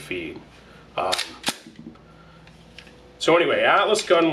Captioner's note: gun clicks